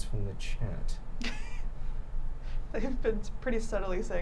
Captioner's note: laughing